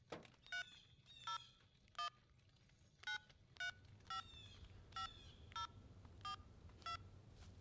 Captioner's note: phone dials